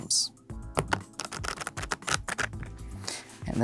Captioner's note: cards riffling